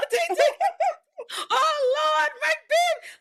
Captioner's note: laughing